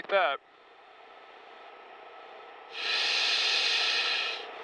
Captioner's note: wind whistling